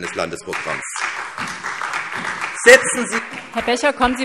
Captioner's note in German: Beifall